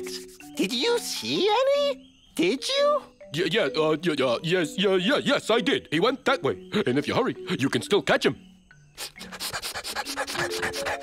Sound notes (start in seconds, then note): 8.9 sniffing